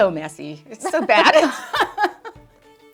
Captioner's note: both laugh